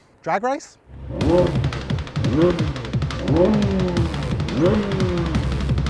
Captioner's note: engines revving